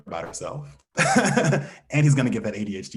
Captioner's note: laughs